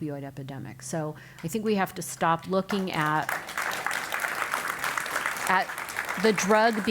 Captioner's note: applause